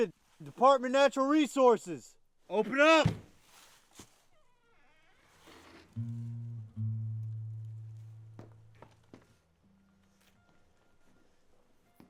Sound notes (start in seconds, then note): 4.5 door creaks